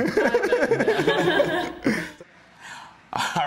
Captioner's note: everyone laughs